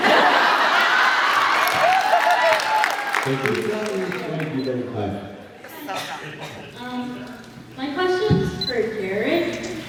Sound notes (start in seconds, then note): 0.0 laughs, applauds; 0.0 laughs; 2.3 laughs, applauds